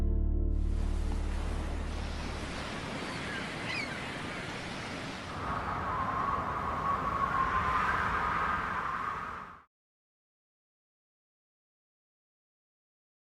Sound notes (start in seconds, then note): 0.5 water rushing; 2.0 seagulls calling